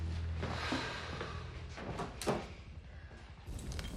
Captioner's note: homer sighs